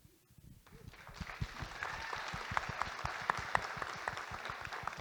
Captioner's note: audience Applauding